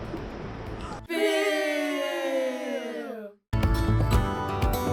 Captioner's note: electronic Voices